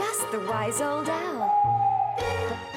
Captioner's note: hoot